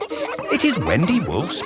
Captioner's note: kids laughing